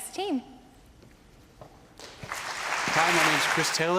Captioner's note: applause